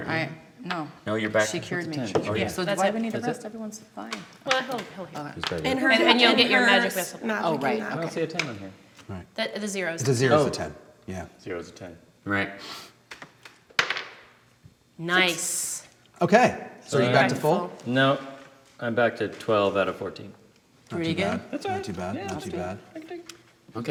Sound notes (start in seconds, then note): 13.7 dice clacking